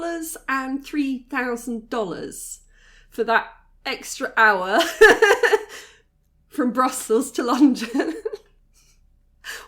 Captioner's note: laughing